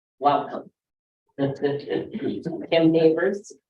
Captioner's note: laughs